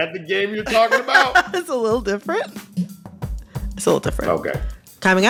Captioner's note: laughter